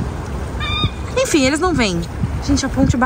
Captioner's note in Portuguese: som de gaivotas